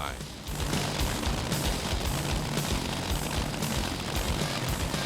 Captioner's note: engine running